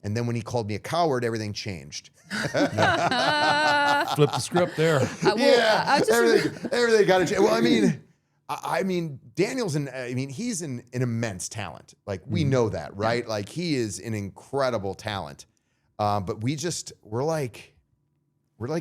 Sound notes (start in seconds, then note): 2.3 all laughing